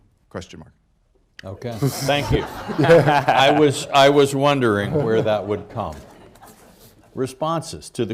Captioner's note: laughter